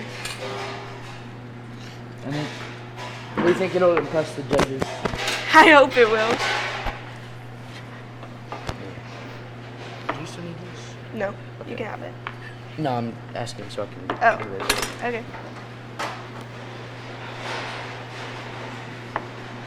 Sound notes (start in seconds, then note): 0.3 loud banging nearby; 7.1 loud banging nearby; 15.1 object clattering